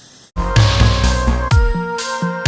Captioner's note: static